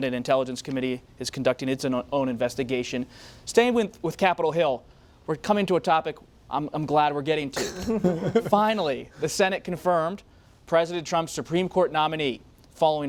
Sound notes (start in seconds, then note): 7.6 laughter